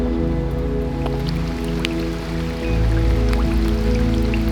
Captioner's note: rain drops plopping